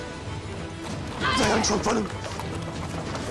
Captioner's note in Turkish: Kağnı Sesleri